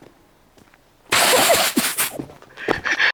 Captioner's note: laugh